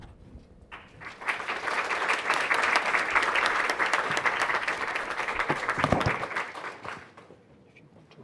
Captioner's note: audience applause